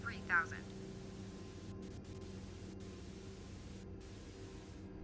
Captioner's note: static buzzing